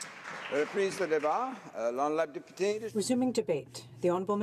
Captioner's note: applause